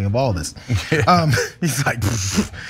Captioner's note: laugh